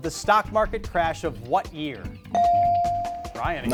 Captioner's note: beep